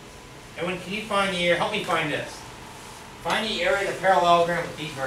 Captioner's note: speaks softly